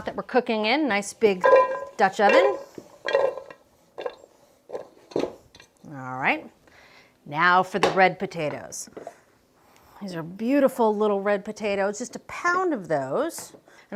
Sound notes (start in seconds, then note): 3.0 potatoes clanking